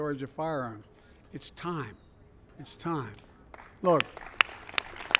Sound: applause

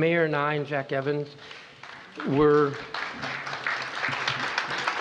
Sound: applause

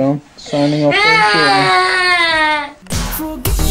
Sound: crying

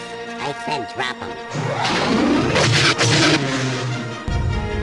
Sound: Hailfire missile launches

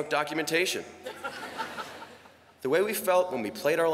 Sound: laughter

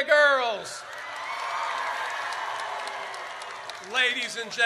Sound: audience cheers

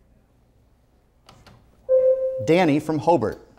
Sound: buzzer sounds

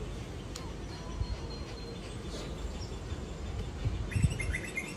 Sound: birds chirping

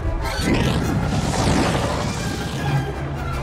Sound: whooshing

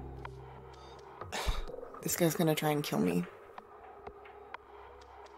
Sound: sigh

